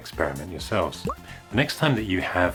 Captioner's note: pop!